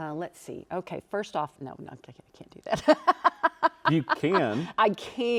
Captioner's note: laughs